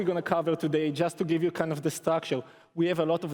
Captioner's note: none